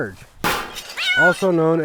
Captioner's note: crashing sound; cat meow's